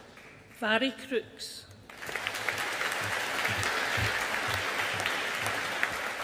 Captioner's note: audience applauding